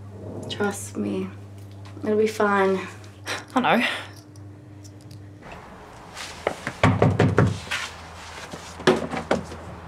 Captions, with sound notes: - Trust me, it'll be fine. - I know (knocking on door)